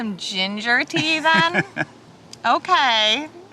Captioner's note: chuckles